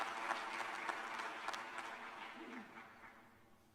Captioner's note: applause